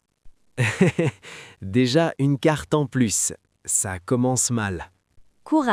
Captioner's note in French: rire